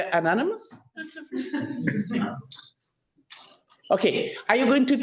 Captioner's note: people laugh